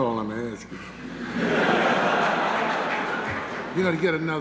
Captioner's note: laughter